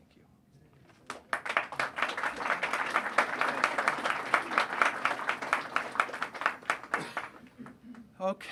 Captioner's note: applause